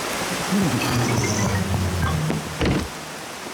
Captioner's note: grunts